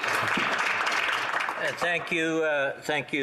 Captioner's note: applause